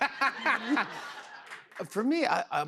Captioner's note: laughter